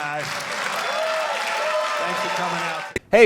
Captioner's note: audience cheering; audience clapping